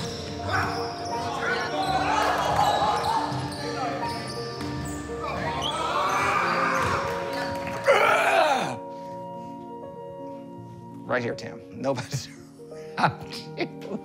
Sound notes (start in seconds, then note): 0.3 players mumble; 8.5 grunts; 12.9 chuckles